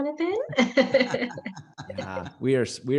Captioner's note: all laughing